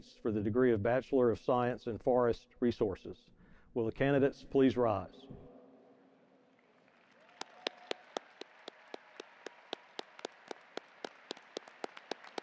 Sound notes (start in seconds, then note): 6.5 audience applauding